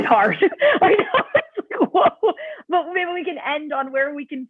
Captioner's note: laughter